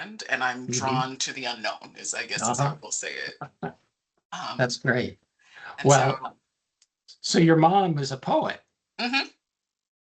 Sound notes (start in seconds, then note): 2.4 chuckling